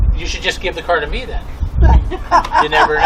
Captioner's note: laughs